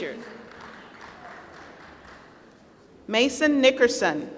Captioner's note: applause